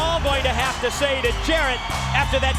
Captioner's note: crowd chatter